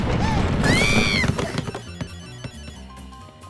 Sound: screaming

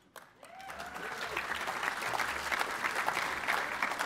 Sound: applause

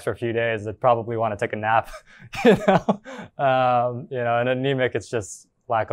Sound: chuckles

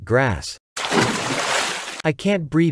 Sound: water splash

